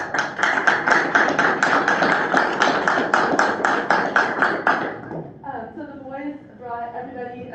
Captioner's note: applause